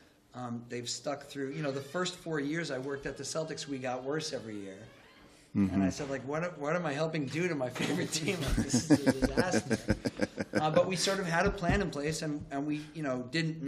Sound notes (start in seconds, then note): 7.8 laughter